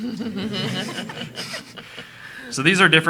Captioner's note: attendees laughing